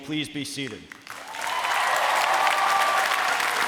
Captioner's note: applause